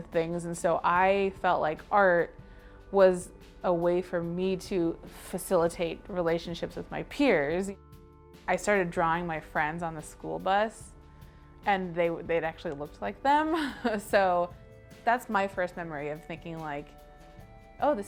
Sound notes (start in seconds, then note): 13.6 chuckling